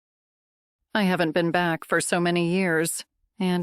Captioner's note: voice-over